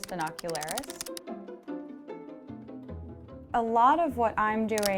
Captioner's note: keyboard keys clacking